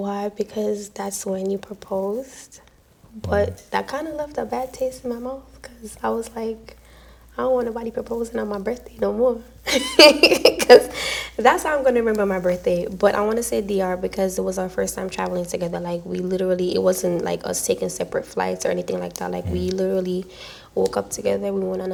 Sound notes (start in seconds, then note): 10.3 laughs